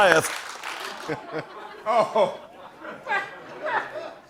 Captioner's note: laughter